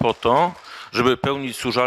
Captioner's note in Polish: oklaski